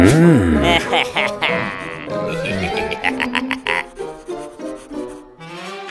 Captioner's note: happy chuckles